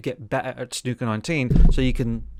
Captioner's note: rubs against microphone